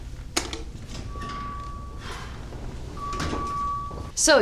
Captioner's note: object rustling